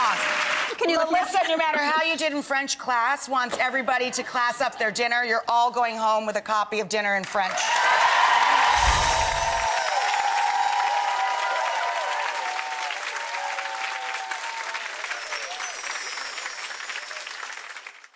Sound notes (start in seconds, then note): 7.5 audience cheering